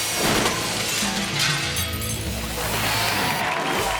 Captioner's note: upbeat music; glass shatters; audience cheering